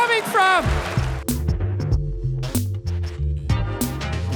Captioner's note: audience laughs and applauds